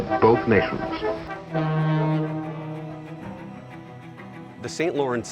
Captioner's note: ship horn blowing